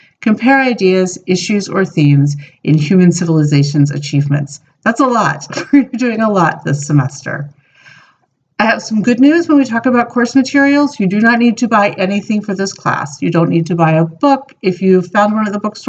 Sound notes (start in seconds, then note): 5.4 laugh